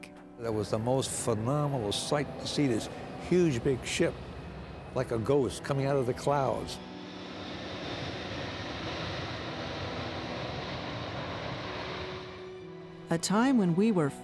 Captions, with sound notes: when jumbo jets stopped traffic. - It was the most phenomenal sight to see this huge big ship like a ghost coming outta the clouds. (engines roaring)